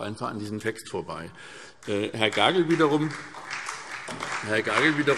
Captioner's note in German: Beifall SPD und DIE LINKE